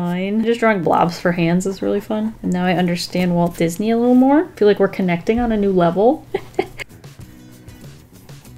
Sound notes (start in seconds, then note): 6.2 laughs